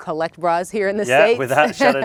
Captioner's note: laughs